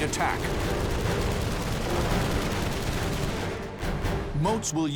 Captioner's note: gunfire